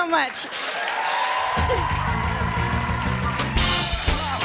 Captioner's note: cheers and applause